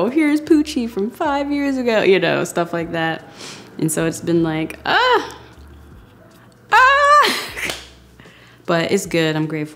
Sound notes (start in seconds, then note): 5.2 groaning